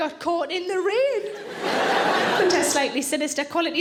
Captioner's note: audience laughing